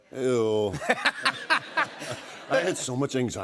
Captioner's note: laughter